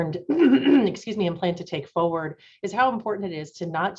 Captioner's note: clears throat